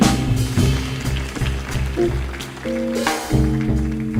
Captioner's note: audience applauding; jazz music continues